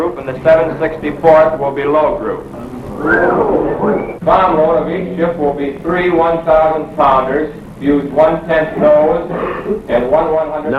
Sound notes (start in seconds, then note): 2.6 men whistling